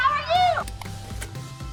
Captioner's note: clicks